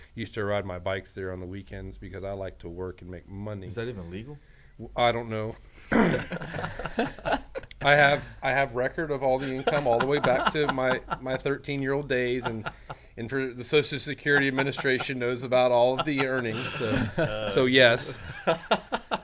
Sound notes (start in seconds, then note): 5.9 men laughing